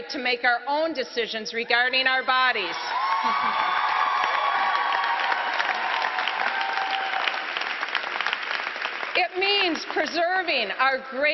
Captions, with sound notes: A FAIR SHOT MEANS THE QUALITY AND PAY AND OPPORTUNITIES. IT MEANS WOMEN'S RIGHT TO MAKE OUR OWN DECISIONS REGARDING OUR BODIES. [APPLAUSE]